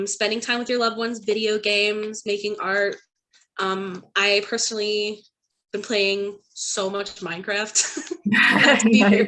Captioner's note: laughs